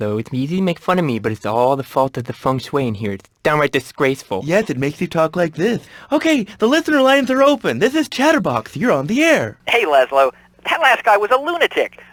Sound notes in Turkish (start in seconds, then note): 3.9 peltek konuşma taklidi yaparak